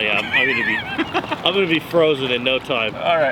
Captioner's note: laughing